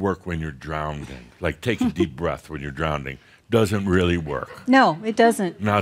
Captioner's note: a few giggles